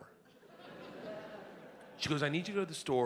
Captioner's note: audience laughs